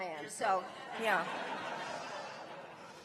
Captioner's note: laughter